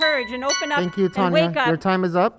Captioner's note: chiming